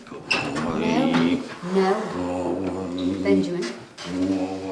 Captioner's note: groaning